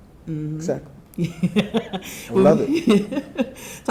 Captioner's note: chuckling